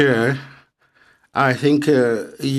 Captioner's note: speaking French